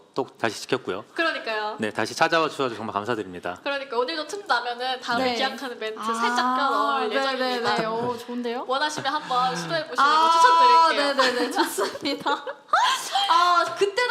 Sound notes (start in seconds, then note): 10.9 laughs; 11.1 laughter